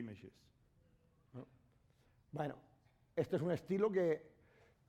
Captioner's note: speaking spanish